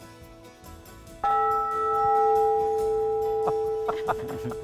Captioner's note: group laughs; bell reverberates